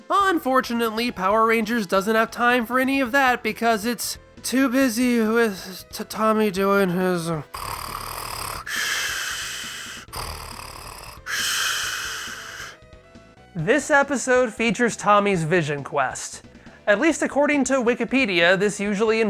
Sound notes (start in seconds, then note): 7.4 snores